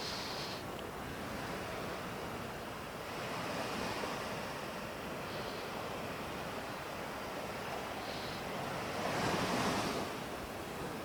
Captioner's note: breathing